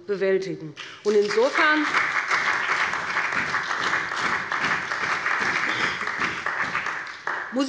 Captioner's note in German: Beifall bei dem BÜNDNIS 90/DIE GRÜNEN und der CDU